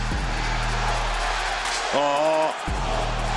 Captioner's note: crowd chants